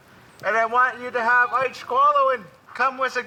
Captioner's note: speaks foreign language